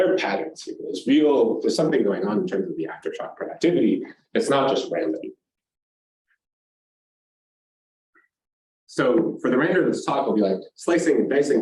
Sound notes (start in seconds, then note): 5.4 silence